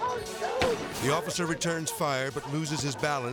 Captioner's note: shots firing